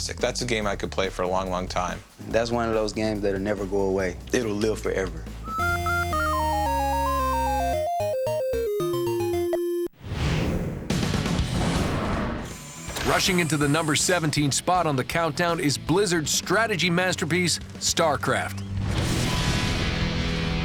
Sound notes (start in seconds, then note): 5.4 arcade music plays; 12.2 explosion; 19.6 explosions